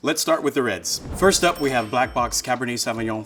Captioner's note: bell dinging